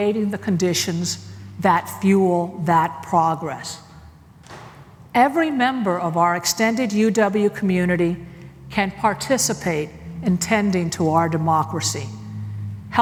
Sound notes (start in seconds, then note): none